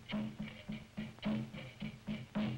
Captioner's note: none